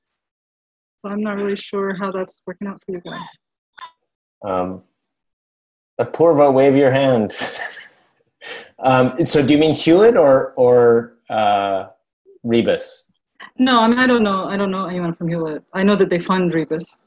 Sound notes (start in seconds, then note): 6.8 laughs